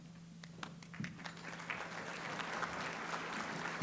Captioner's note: applause